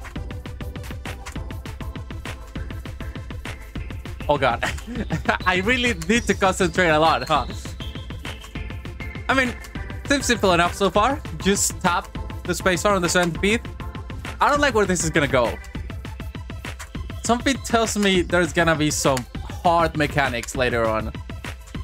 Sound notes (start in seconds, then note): 4.4 chuckles